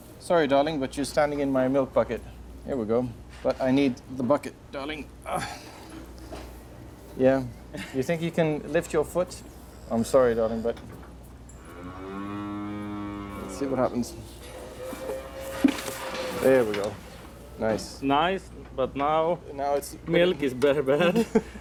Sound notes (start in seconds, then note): 11.6 cow moos